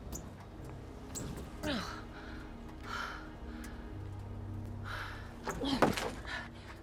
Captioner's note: gasping